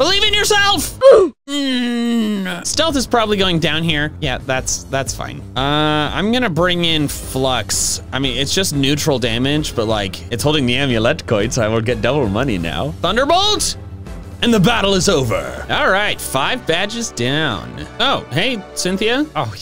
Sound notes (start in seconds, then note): 1.5 comedic grunting